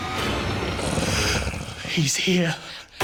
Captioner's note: tense music; monster grunting